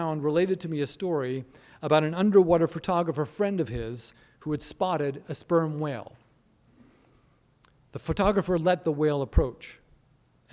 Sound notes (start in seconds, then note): none